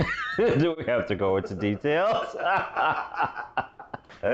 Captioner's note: laughs